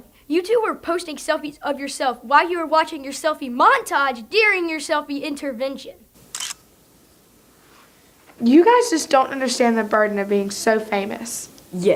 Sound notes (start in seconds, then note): 6.2 camera clicks